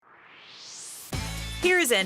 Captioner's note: swoosh